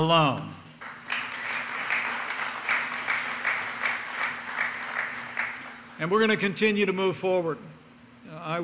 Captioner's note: applause